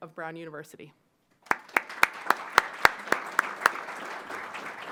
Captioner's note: applause